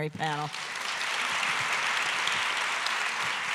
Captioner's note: applause